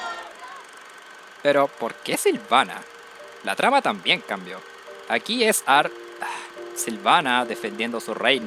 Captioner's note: sigh